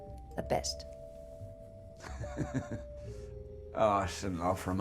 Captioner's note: laughing